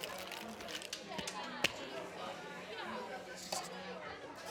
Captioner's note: people murmuring